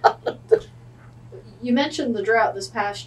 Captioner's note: laughs